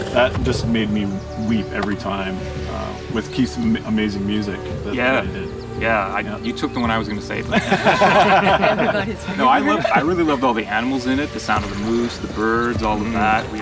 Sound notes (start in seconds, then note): 7.1 group laughter